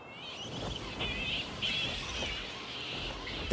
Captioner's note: squawking